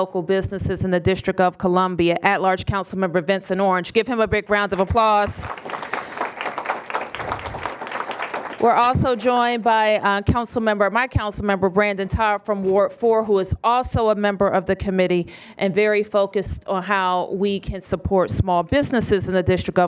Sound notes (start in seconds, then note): 4.7 applause